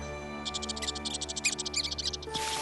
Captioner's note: chittering